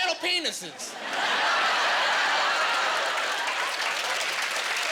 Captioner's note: laughing